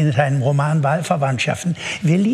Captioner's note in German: Lachen